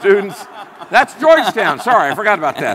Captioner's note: all laughing